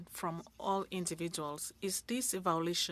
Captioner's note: speaking French